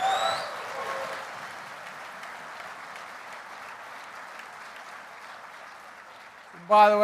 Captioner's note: applause